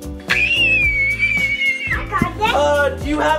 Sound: screaming

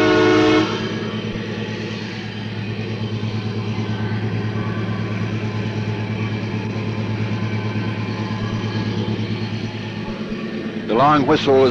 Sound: sound of the train moving

